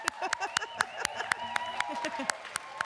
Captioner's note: applause